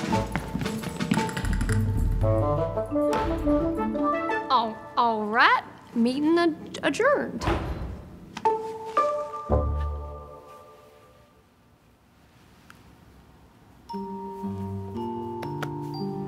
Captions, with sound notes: - (stuttering) All right. Meeting adjourned. (soft music)